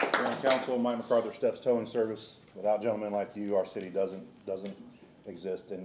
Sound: applause

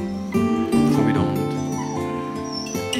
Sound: whimper

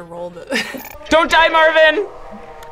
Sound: laughs

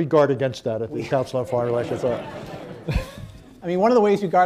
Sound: laughter

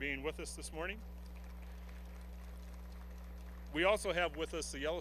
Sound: applause

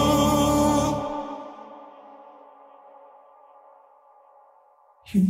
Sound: echo

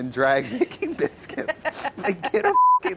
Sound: both laugh

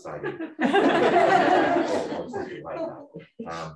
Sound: laughing

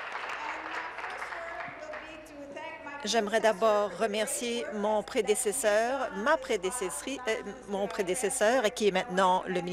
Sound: applause

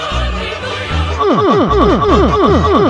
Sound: humping sounds

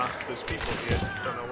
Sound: gunshot

